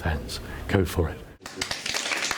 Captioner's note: applause